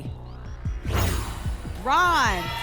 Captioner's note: whoosh